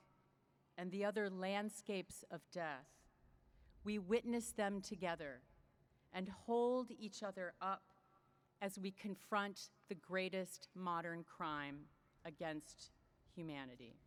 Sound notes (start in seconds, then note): none